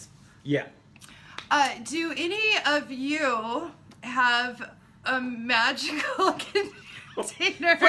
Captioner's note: laughing